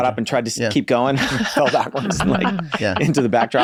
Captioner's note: laughs